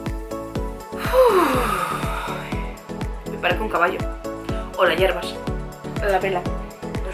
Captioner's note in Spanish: suspiro